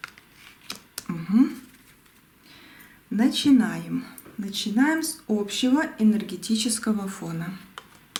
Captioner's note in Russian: откашливается